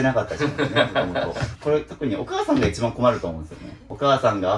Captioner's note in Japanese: 笑い